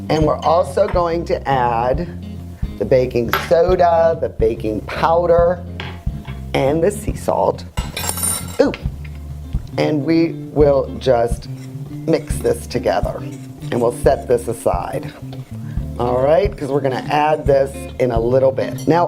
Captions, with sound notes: Were also going to add the baking soda, the baking powder and the sea salt. (spoon clanging) Ooh! We will mix this together and we'll set this aside. Alright, because we're gonna add this in a little bit.